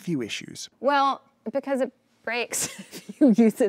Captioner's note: chuckles